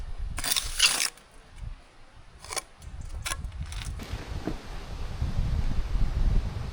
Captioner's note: metal clanking; wind blowing